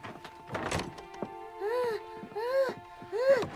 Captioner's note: Helen Moaning